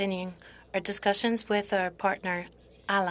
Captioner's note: speaking French